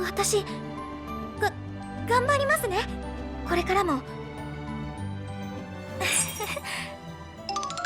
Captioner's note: chuckle